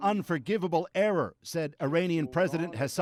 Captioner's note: speaking foreign language